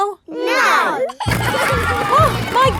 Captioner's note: giggling